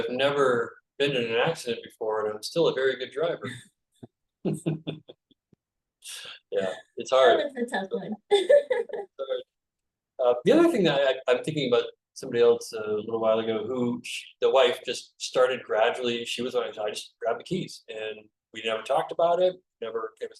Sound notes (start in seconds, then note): 4.5 laughs